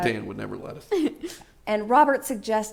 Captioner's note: laughs